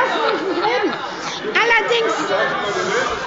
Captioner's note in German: Fortgesetzte lebhafte Zurufe